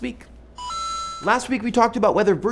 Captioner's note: arcade sound